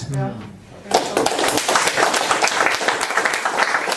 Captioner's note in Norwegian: applaus